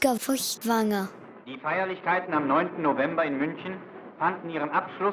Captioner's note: German spoken audio